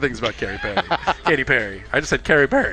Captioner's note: laughing